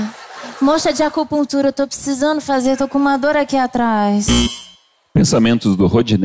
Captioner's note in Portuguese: campainha